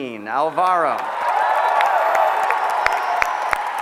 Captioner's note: applause